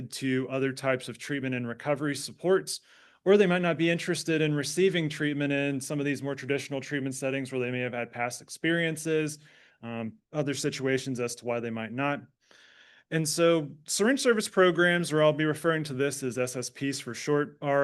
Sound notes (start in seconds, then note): none